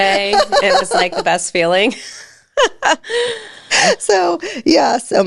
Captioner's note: both laughing